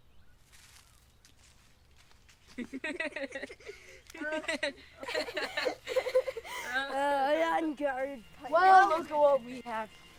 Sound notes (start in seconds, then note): 2.4 boys laughing